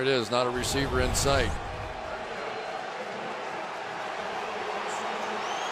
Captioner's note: crowd cheering